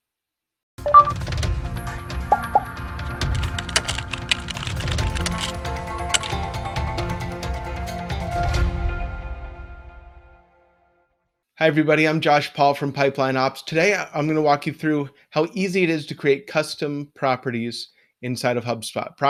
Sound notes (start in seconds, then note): 0.9 whimsical music; 3.2 keys clacking; 6.9 whimsical music